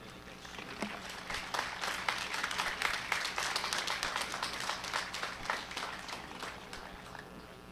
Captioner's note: applause